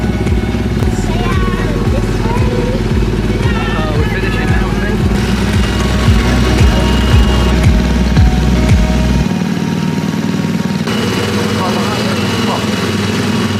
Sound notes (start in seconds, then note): 5.1 gentle upbeat music; 5.1 ride engine rumbling